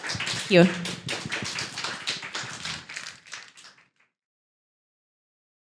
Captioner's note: applause